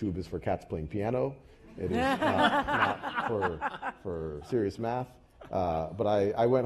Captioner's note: laugh